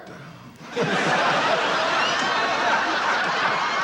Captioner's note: laughing